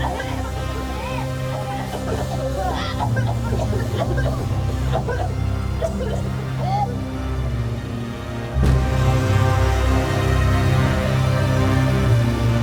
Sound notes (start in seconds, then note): 1.9 dramatic music; 3.5 all coughing; 6.2 dramatic music